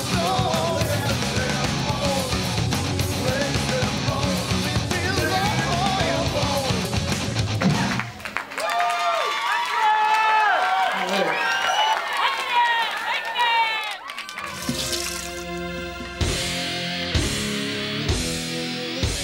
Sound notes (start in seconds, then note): 0.0 upbeat rock music; 7.6 audience applauding and cheering; 14.6 upbeat rock music